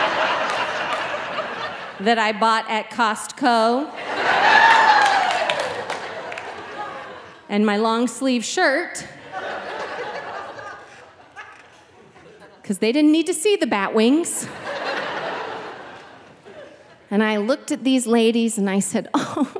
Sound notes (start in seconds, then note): 0.0 audience laughing; 4.1 audience exclaiming; 14.4 audience laughing